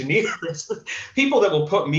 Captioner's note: chuckles